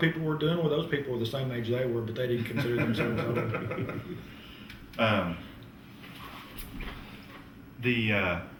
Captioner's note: laughter